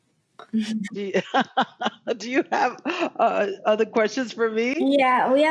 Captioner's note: laughing